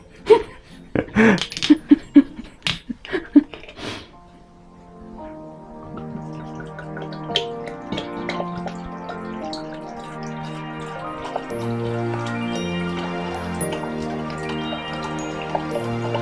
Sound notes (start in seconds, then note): 0.1 both laugh in Lithuanian; 5.8 pours wine in Lithuanian